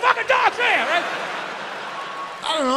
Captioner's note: audience laughs